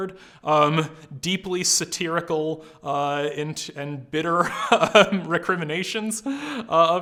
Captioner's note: laughs